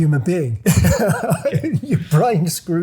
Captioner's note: laughing